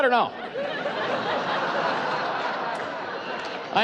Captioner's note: laughing